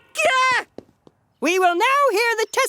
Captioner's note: exclaims